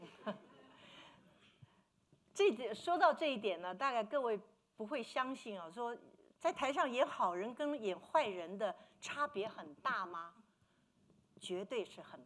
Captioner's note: speaking Mandarin